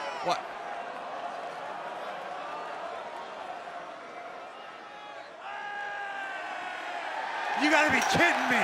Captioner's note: crowd cheering